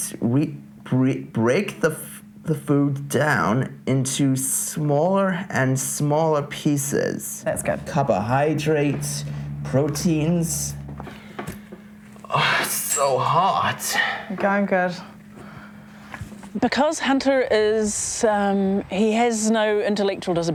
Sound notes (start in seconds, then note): 12.1 sighs